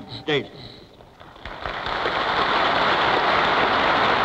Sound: applause

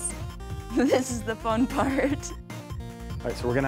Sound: laughing

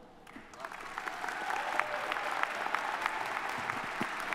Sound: audience applauding

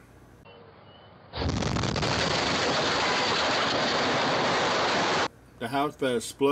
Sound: house explosion

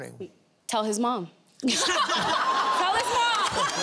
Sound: laughter

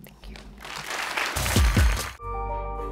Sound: applause

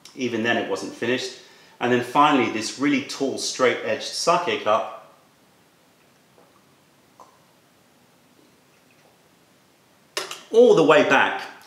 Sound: sips tea

